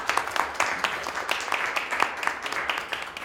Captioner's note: applause